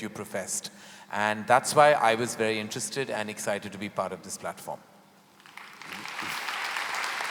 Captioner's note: applause